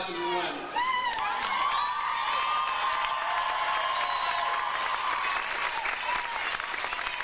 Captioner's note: audience cheers; audience applauds